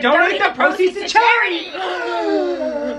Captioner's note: big gasp